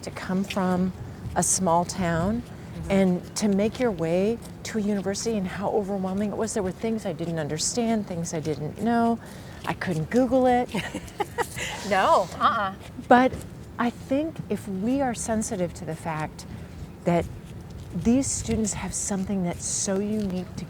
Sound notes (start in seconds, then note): 10.7 host laughs